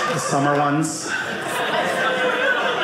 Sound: audience laughing

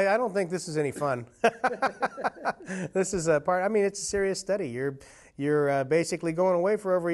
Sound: laughter

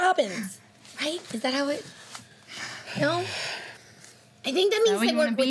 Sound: snickers

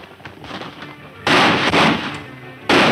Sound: horse hoof beats; loud gunshots

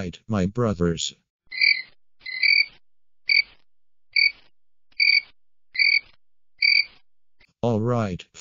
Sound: crickets chirping

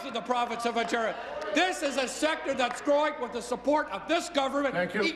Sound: applause

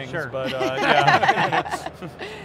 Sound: laughs

